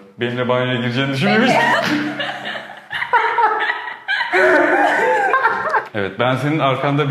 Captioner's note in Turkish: kahkahalar?